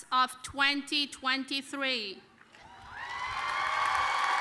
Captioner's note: applause